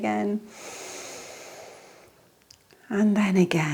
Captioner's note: inhales deeply